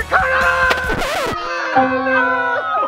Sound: record scratch; laughing and yells of disappointment

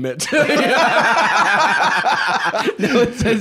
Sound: both laughing

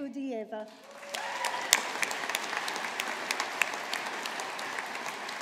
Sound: audience applauding

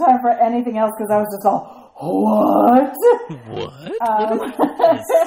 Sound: laugh

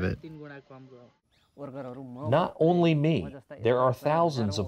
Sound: through translator

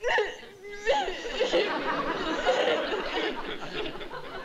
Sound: sobbing

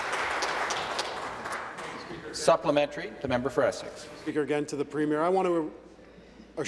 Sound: applause

